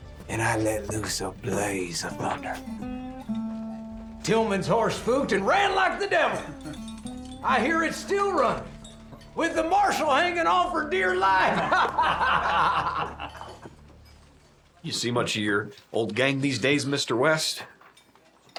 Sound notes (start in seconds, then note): 11.4 laughter